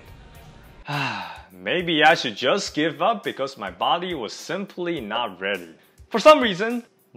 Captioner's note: sigh